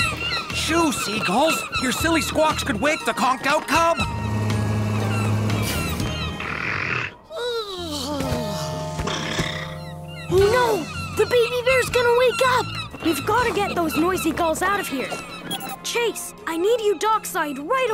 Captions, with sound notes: Shoo, seagulls. You're silly squawks could wake the conked out cub. [squawking] [snoring] Oh, no. The baby bear's gonna wake up. We've gotta get those noisy gulls out of here. Chase, I need you dockside right away.